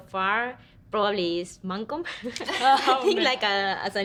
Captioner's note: women laugh